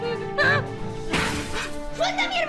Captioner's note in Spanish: Cristales rotos